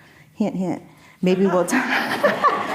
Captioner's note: laughing; audience laughing